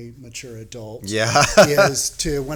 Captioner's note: laughing